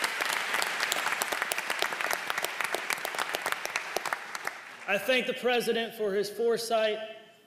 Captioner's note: applause